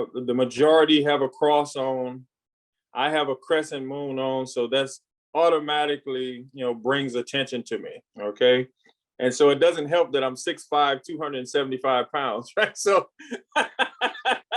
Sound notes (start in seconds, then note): 13.2 laughs